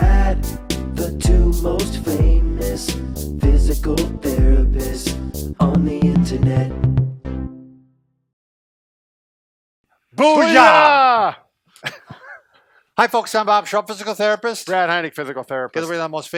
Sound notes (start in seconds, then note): 11.8 laughter